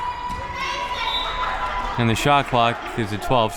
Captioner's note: whistle